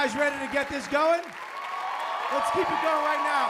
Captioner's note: applause